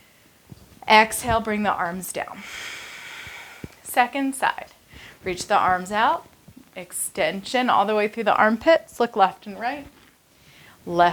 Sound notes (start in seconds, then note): 2.4 exhales